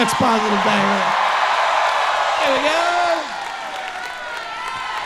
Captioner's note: audience cheering